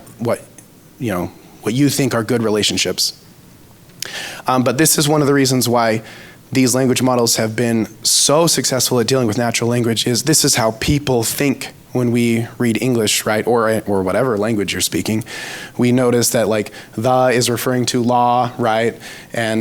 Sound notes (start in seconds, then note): 3.9 smacks lips